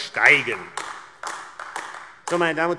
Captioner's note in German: Beifall AfD